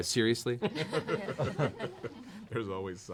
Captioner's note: laughter